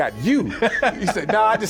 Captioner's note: laughing